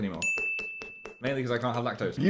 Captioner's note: bell dings